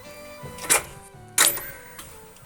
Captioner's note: soft music; clicking